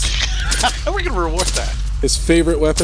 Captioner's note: laughing